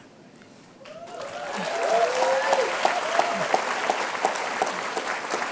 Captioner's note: applause